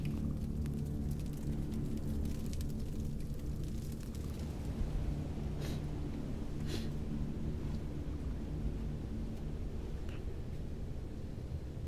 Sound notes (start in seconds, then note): 6.6 sniffing